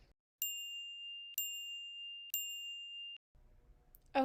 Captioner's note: chiming